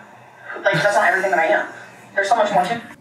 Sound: laughing

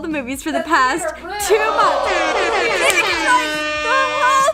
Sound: air horn

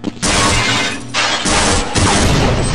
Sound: mp5 fires; glass shatters; mp5 firing; satchels explode

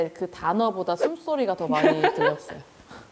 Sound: sound of her breathing

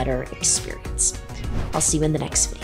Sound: swoosh

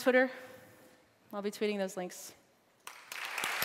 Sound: applause

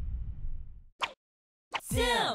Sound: logo whooshing

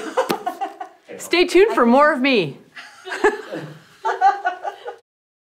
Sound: laughs

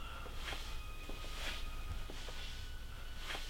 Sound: footsteps

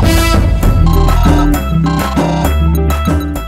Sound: phone rings

